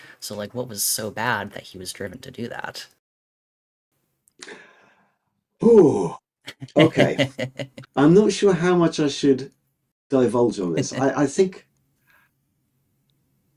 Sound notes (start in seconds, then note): 6.5 laughing